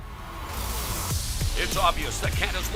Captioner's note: crowd cheering